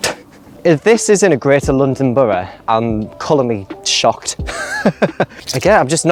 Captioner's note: laugh